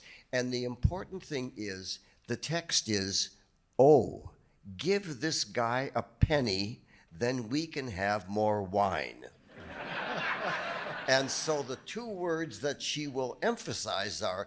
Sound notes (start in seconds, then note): 9.5 audience laughing